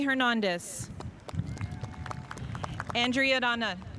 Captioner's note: spectators applauding